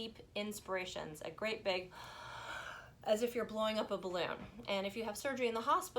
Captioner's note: inhales